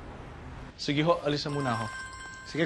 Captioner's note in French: phone ringing